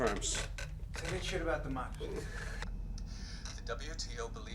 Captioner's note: voiceover